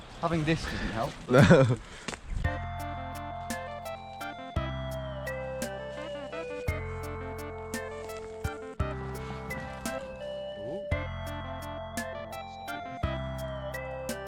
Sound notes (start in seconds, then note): 1.3 laughs